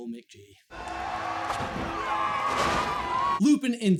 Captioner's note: cheering